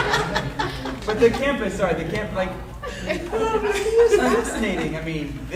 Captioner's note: audience laughing